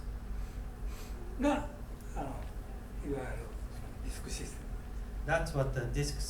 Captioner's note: speaking in foreign language